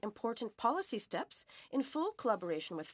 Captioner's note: speaking French